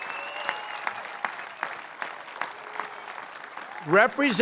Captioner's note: applause